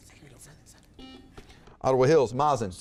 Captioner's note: buzzer beeps